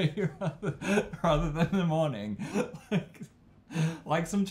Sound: both laugh; both laughing

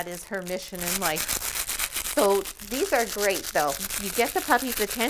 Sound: toy crinkles

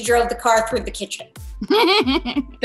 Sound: Andrea chuckles

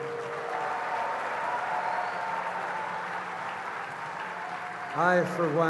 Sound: cheers & applause

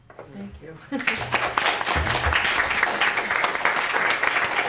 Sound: applause

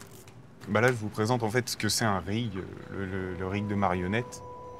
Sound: in french

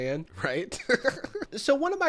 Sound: laughs

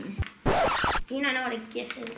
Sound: needle scratches

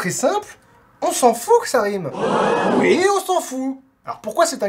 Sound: shocked gasp

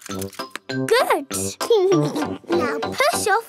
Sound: chuckles

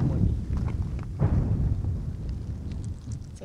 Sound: sound of explosion

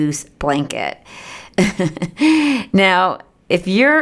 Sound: laughter

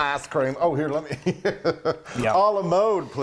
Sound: laughs

